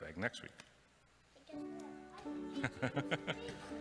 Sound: laughs

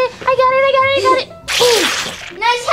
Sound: squishes

